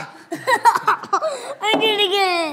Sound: laughs

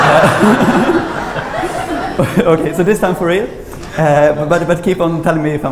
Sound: laughter

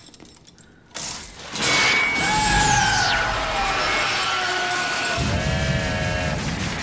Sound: Fester screaming; train horn

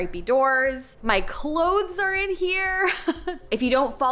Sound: chuckles

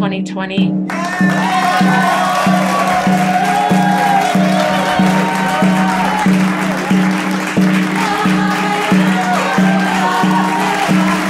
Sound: applause and cheering

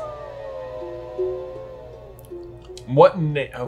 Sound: wolf howling

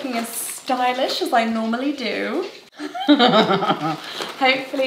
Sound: laughs

